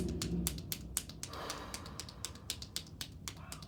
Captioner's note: sighs